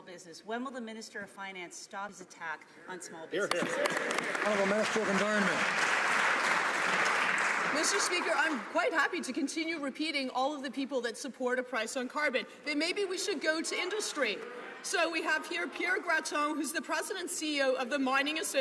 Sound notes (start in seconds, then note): 6.9 some Applause